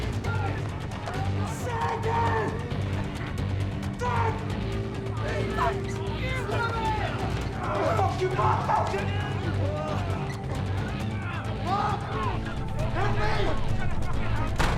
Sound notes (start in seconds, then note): 6.2 residents shouting